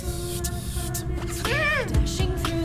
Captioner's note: upbeat music; woman murmuring